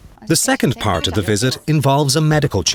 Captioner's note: voiceover